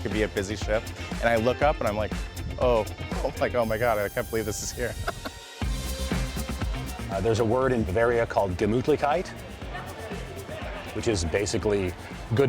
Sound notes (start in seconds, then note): 4.9 chuckles